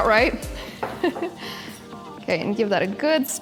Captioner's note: laughs